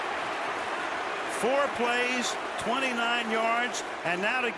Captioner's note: cheering